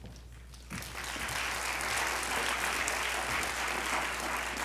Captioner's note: audience applauding